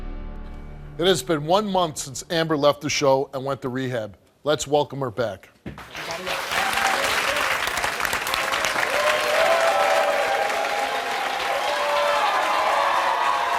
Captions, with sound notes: - It has been one month since Amber left the show and went to rehab, let's welcome her back. (crowd applauding)